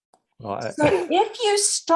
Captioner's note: laughs